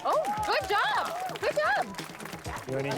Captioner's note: applause